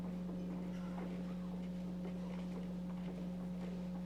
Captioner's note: none